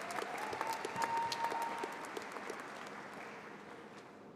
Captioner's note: applause